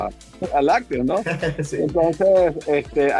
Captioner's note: laugh